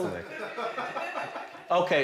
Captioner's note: people laughing